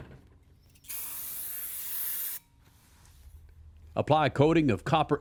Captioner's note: aerosol can hissing